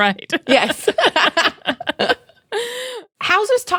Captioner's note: laughing; laughs